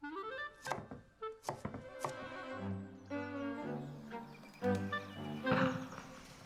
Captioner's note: playful music; knife thudding